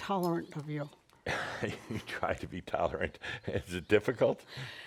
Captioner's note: chuckles